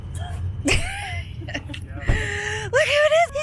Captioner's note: laughing